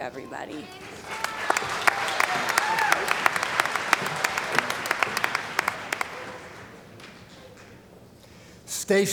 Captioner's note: applause